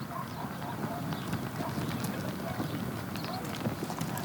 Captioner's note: none